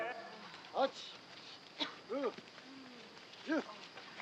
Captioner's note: speaking Japanese